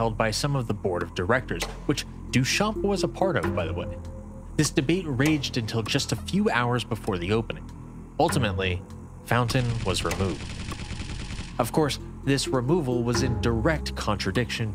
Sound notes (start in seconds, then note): 9.5 light machine gun fire